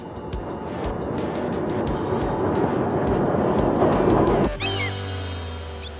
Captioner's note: whoosh; bird squawks